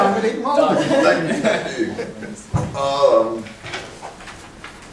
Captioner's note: laughing